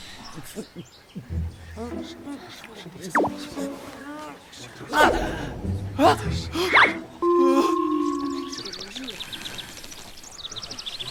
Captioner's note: eating sounds/Awkward silence